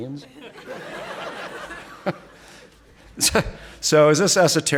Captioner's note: audience laughing